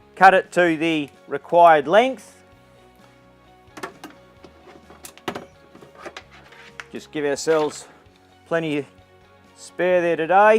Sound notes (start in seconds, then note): 3.8 pipe rustles